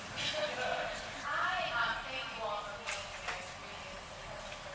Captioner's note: woman's Voice